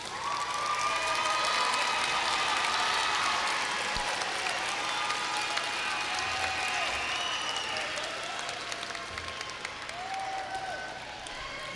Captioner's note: applause